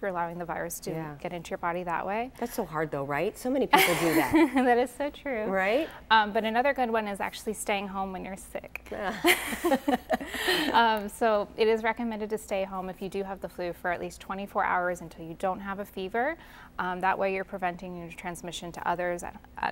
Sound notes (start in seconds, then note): 10.6 laughter